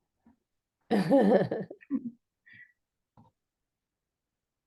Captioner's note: laughs